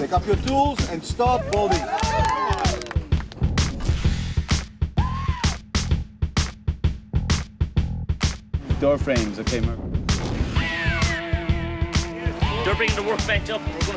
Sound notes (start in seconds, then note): 1.1 cheering; 3.4 funky drums; 10.5 funky drums